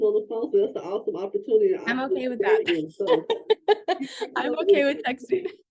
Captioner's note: laughing